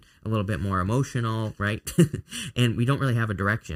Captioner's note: chuckles